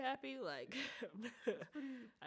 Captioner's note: chuckles